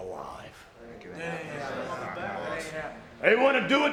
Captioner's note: group murmuring